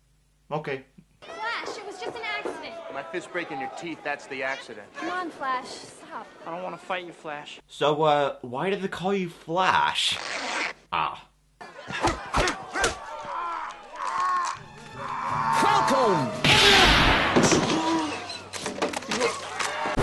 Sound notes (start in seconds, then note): 10.1 unzipping sound; 11.9 punching sounds; 14.9 sounds of pain; 18.3 food dropping